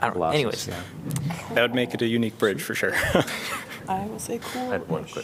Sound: laughter

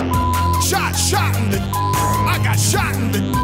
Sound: beep

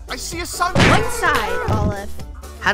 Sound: whomp

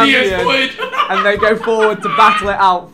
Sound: laughing

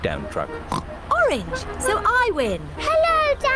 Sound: oinks

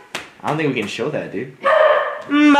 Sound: bark

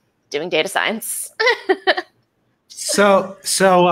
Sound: laughs

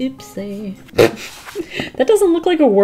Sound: laughs

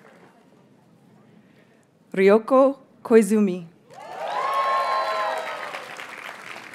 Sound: audience cheers and applauds; audience members gasp

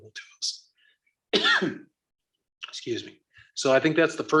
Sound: coughs

